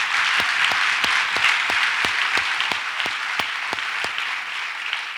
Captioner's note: audience applauds